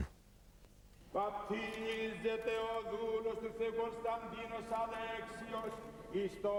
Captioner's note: priest chanting in foreign language